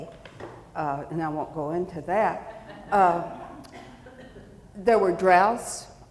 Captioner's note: audience chuckling